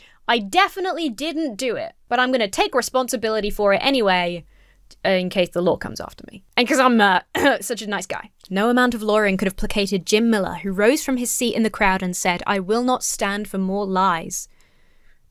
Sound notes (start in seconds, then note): 7.2 clears throat